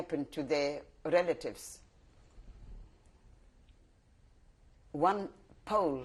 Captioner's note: pauses for 3 seconds